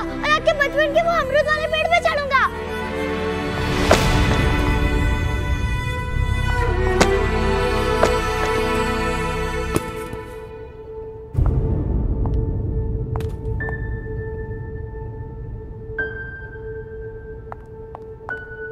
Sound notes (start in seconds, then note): 3.7 banging; 11.2 footsteps